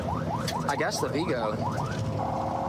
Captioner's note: warning sirens